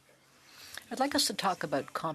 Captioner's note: speaking French